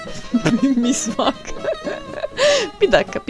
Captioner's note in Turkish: Gülmeye başlar; Gülmeye devam eder